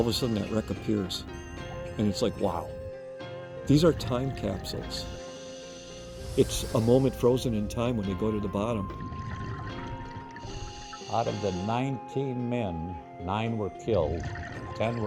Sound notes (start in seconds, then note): 10.3 diver breathing